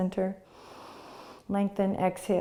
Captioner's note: inhaling